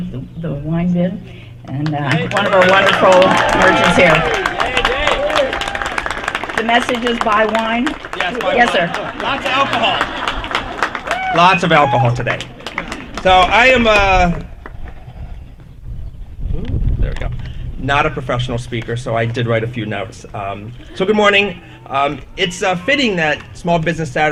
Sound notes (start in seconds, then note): 4.3 applause